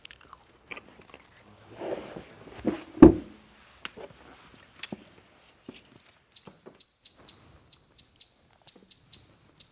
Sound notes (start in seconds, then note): 2.5 chair thumps